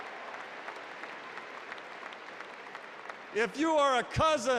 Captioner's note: applause